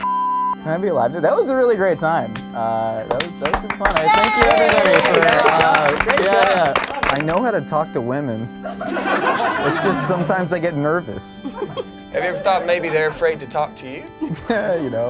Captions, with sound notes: Can I be alive? That was a really great time. That was fun. (group clapping) Thank you, everybody. Yeah, yeah. I know how to talk to women. (group laughs) It's just sometimes I get nervous. - Have you ever thought maybe they're afraid to talk to you?